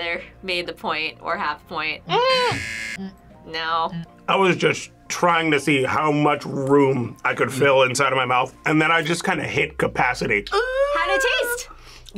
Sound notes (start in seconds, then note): 2.5 buzzer rings